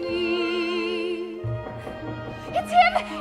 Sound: knocking on door

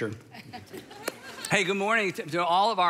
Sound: congregation laughs

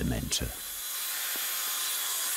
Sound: grinding noises

